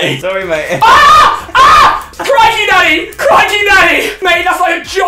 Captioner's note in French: cri